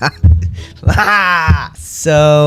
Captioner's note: general noise of frustration